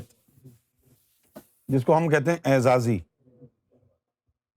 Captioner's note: in Urdu